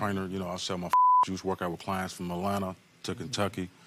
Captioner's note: beep